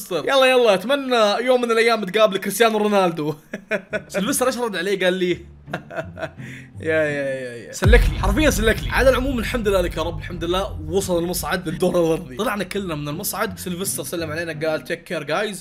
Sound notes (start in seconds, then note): 2.9 laughs obnoxiously; 5.7 heartless laugh